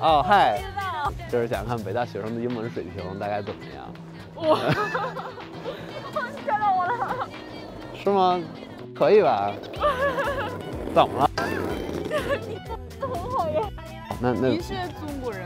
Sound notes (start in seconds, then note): 0.4 speaking in foreign language; 4.4 laughter; 7.0 speaking in foreign language; 10.1 laughter; 11.3 speaking in foreign language